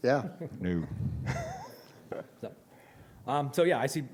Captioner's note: laughter